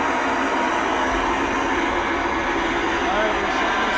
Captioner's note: static hissing